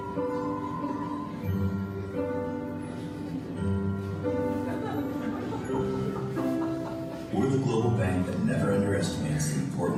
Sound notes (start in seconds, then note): 4.5 laughter